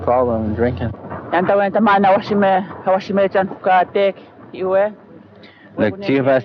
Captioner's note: speaking Indigenous Language